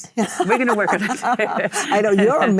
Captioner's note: Michelle laughs